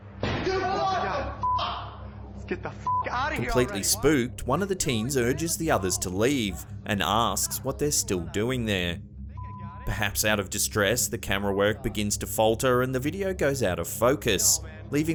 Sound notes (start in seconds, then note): 0.4 screaming; 2.9 beep